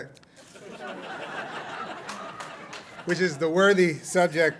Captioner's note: laughter